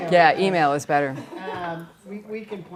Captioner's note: laughter